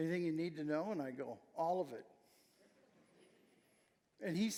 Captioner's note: audience chuckling